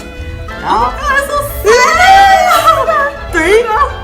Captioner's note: screaming*2